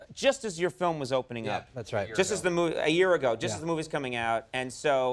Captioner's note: none